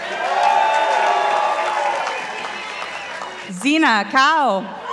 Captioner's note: participants applauding